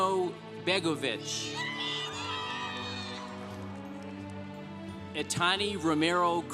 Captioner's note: congregation applauding